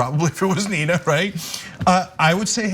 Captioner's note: laugh